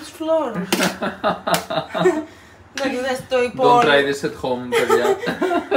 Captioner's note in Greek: γέλια